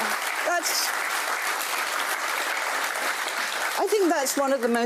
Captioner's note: audience applauding